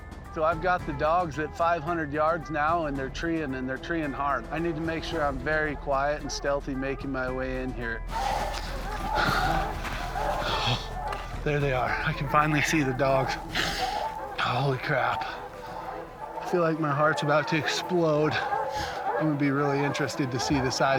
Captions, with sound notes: So, I've got the dogs at 500 yards now, and they're treeing. And they're treeing hard. I need to make sure I'm very quiet and stealthy, making my way in here. [ Dogs barking ] Oh, there they are. I can finally see the dogs. Holy crap. I feel like my heart's about to explode. I'm going to be really interested to see the size